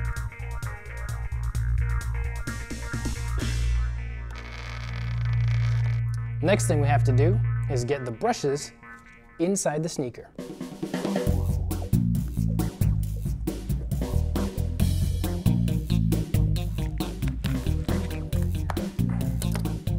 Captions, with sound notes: (vibrating) Next thing we have to do is get the brushes inside the sneaker.